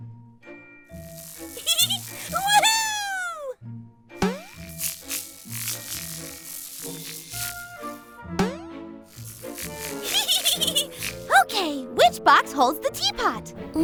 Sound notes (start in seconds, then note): 1.0 playful music; 1.5 laughs; 3.9 boing; 4.2 buzzing; 8.3 boing; 9.9 laughs